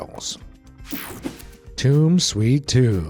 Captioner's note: swishing